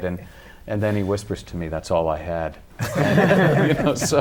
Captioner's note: laughter